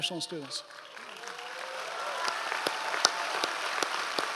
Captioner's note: audience applause